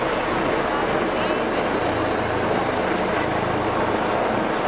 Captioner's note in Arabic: هليكوبتر شفرات الطنين